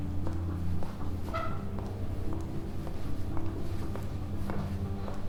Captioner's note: heels clicking